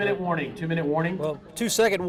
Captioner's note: voiceover